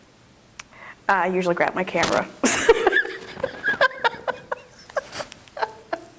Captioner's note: laughs